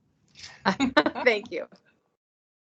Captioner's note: laughter